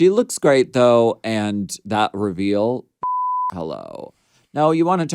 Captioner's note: beep